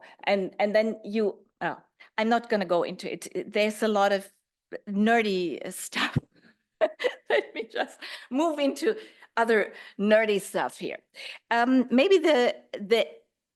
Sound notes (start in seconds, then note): 6.9 laughs